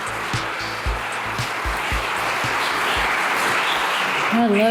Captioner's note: theme music plays; audience applause